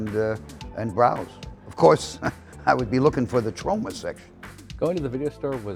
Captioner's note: laughs